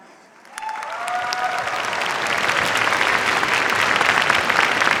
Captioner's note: cheers, applause